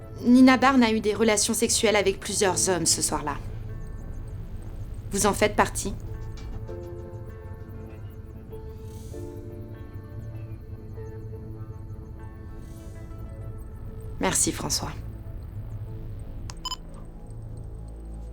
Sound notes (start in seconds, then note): 7.2 low music; 16.4 recorder beeps